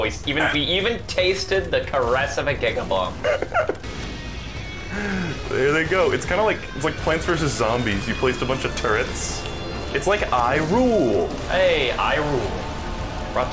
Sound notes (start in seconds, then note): 3.2 laughing